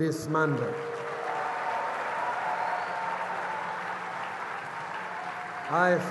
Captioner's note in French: Acclamations et applaudissements